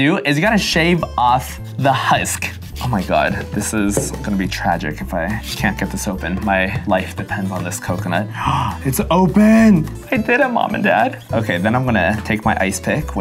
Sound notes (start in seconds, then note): 8.3 gasping